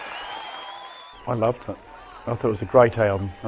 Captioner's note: crowd cheering